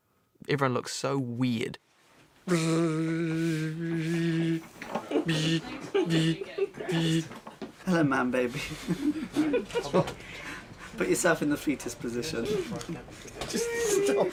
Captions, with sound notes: Everyone looked so weird. [BUZZING] [WOMAN CHUCKLING] -Hello, man baby. -What? -Put yourself in the fetus position. -Just stop it.